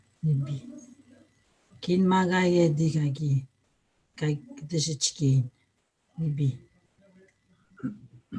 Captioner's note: foreign language